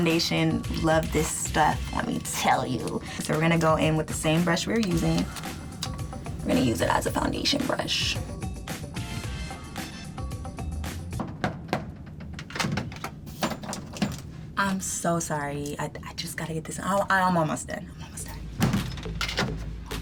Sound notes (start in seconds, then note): 11.1 door knocks three times